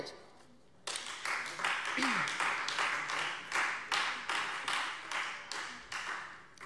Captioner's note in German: Beifall Freie Demokraten